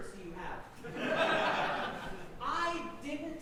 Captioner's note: audience laughing